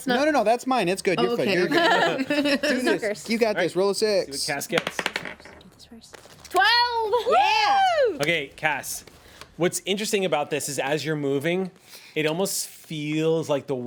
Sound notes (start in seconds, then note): 1.7 everyone laughs; 4.7 rolls dice